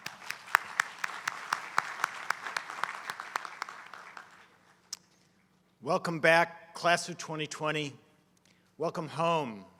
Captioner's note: applause